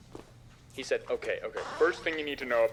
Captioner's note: man on TV